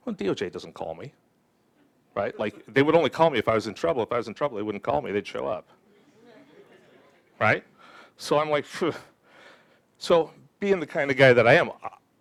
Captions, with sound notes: Well, DOJ doesn't call me, right? Like, they would only call me if I was in trouble. If I was in trouble, they wouldn't call me. They'd show up. Right? So I'm like, (exhales). So being the kind of guy that I am,